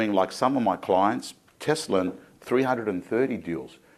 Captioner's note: none